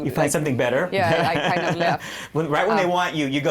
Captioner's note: laughter